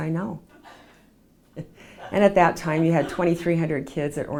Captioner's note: laughs